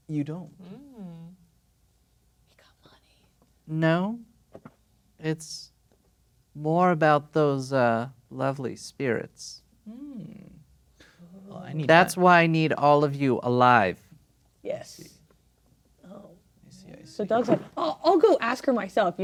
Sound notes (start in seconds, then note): 2.6 whispers